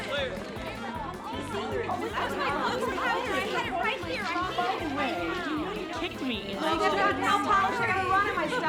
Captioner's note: chatter continues